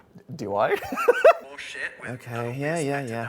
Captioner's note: laughs